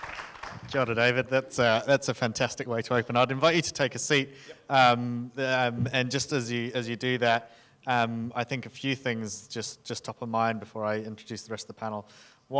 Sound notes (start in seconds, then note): 0.8 speaking in foreign language